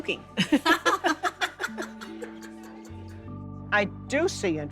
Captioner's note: both laughing